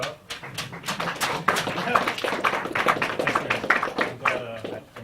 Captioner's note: applause